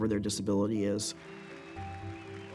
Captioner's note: audience cheers and applauds